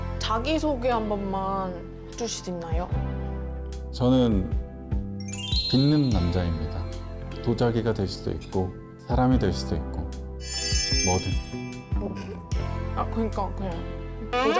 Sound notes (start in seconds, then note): 5.3 glowing sound effect